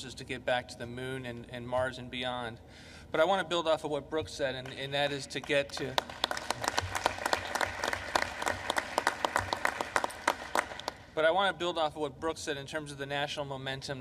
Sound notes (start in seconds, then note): 5.4 applause